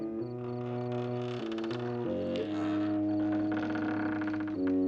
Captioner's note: creaking